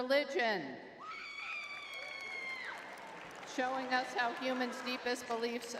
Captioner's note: crowd cheering